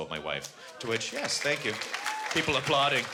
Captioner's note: applause